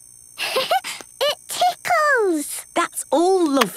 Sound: giggles

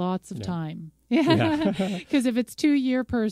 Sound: laughs

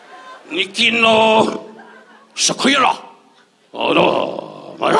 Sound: Don mimicking Japanese

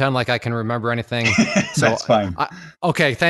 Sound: laughs

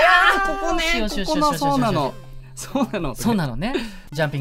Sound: girl tone

